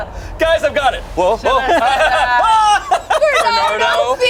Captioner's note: group screams; yells